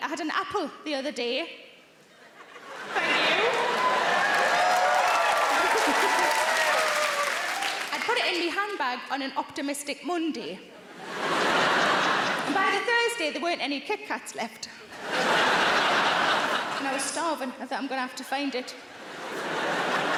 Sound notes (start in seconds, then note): 2.2 audience laughs; 2.8 audience cheers and claps; 10.9 audience laughs; 14.9 audience laughs